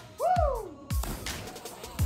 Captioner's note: splash